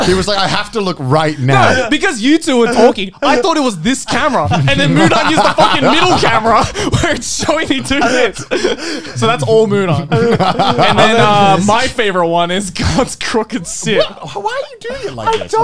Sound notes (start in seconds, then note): 10.3 laughs